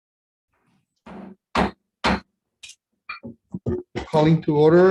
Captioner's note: gavel bangs